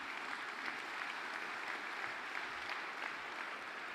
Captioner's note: applause